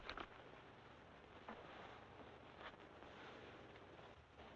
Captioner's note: newspaper rustling